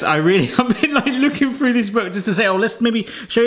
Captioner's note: laughs